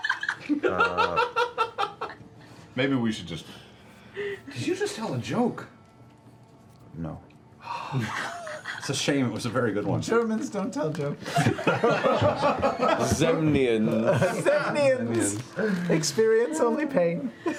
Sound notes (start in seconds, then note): 0.0 laughter; 7.6 sighs; 11.2 laughter